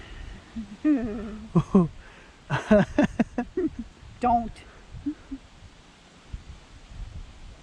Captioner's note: uneasy laughter